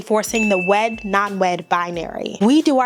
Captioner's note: bell rings